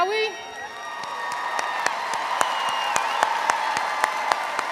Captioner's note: cheering continues